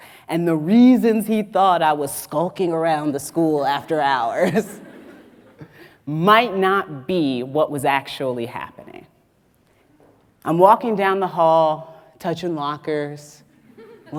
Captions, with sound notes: and the reasons he thought I was skulking around the school after hours (audience laughs) might not be what was actually happening. I'm walking down the hall, touching lockers,